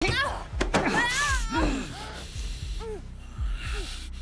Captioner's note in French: Raul grogne